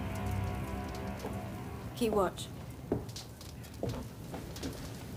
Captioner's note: footsteps approaching